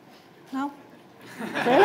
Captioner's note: laughter